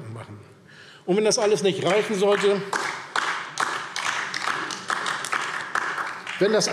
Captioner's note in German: Beifall DIE LINKE